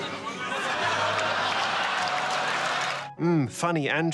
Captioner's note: laughter